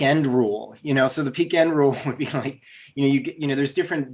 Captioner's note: giggles